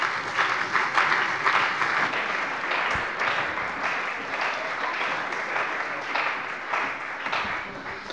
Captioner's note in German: Beifall bei der CDU und dem BÜNDNIS 90/DIE GRÜNEN